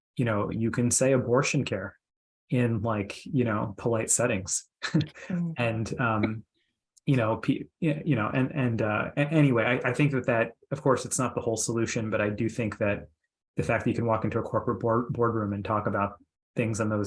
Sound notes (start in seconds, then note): 4.8 chuckles